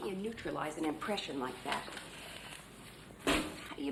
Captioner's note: none